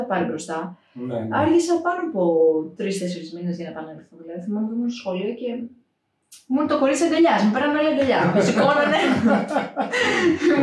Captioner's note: laughs